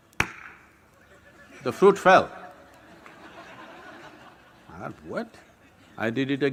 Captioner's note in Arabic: ضحك